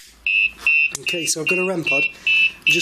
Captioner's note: beeping